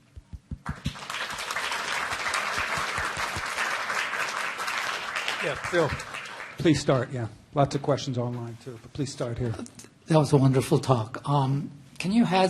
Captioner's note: applause